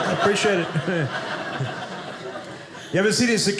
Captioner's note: audience laughing